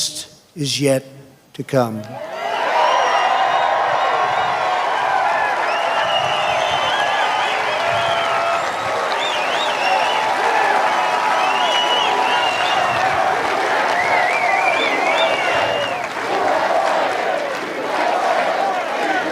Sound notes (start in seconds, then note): 6.2 cheers and applause